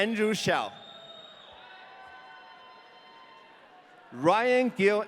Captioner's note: audience cheering